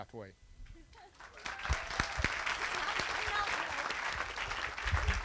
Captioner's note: applause